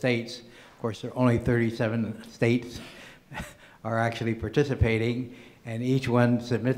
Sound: laughs

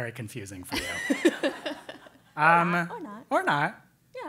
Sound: laugh

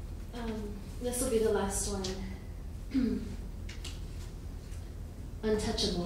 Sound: clears her throat

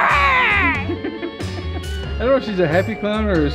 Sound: laughs

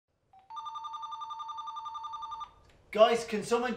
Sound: phone rings

